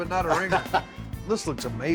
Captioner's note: laughs